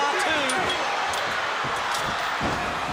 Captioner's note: crowd cheering